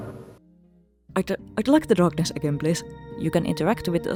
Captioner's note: spooky noise